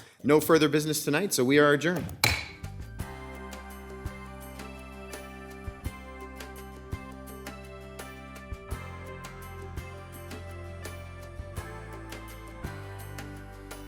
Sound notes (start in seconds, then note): 2.0 gavel thuds; 3.5 gentle music